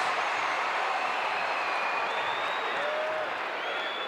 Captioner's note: audience cheering